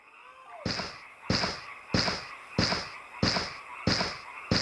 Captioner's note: footsteps thudding